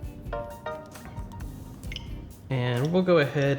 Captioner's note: chimes